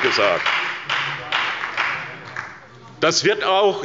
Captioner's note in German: Beifall bei der SPD